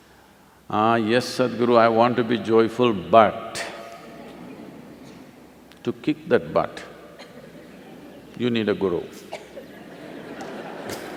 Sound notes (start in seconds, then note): 3.9 laughter; 9.5 laughter/Applause